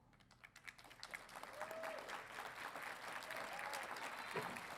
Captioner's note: audience applauding